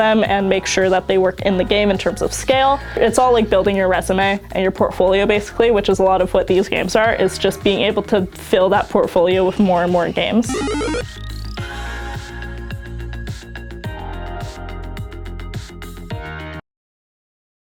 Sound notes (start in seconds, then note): 10.4 gaming noises; 10.4 tech music